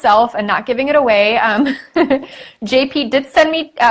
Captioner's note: laughs